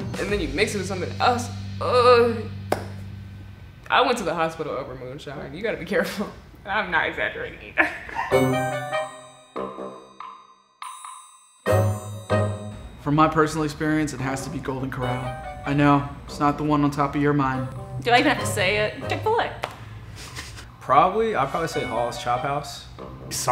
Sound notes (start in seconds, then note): 8.2 laughs; 8.2 playful tune; 20.2 chuckles